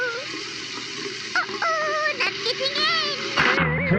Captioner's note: sound of running water